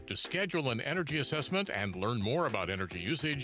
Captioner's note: none